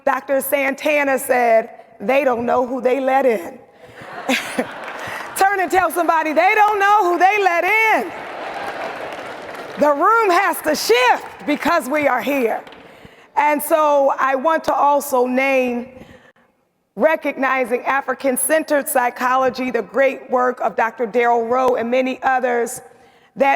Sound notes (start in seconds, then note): 3.9 audience laughs; 8.1 audience laughs